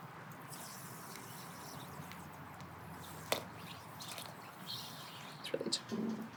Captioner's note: sugar pouring